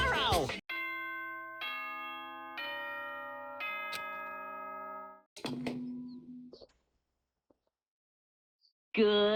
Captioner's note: sound effect